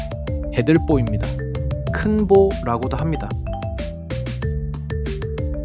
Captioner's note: speaking in foreign language